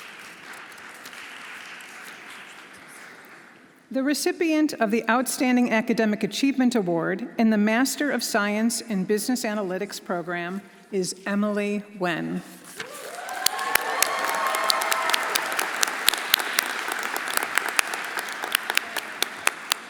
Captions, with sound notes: (audience applauding) The recipient of the Outstanding Academic Achievement Award in the Master of Science in Business Analytics program is Emily Wen. (everyone applauding) (audience cheering)